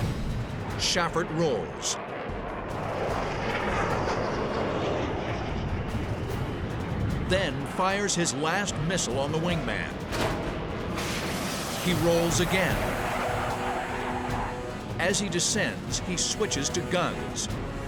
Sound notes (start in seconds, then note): 1.3 jet engine noises